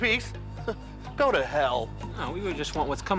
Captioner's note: chuckles